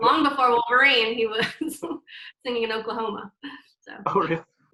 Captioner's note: laughs